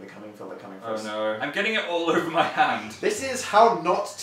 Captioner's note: laughs